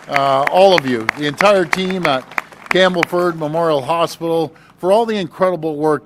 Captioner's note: applause